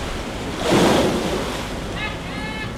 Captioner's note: splashing; crewman shouts